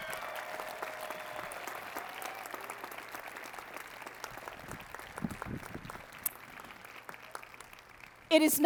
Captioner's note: applause